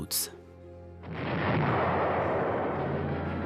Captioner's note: explosion